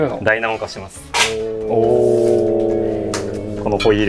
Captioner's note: sounds of impression